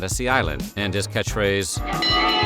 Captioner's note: bell chiming